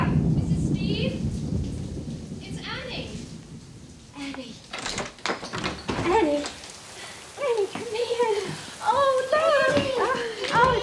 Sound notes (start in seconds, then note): 4.6 door clicking; 4.7 lock clicking; 8.8 rain pouring